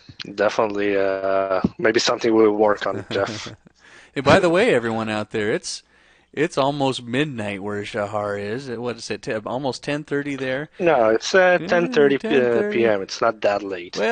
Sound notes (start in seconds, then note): 3.9 chuckles